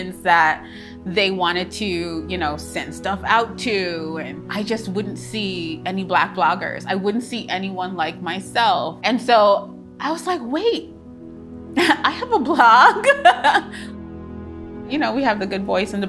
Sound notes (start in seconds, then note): 13.0 laughs joyfully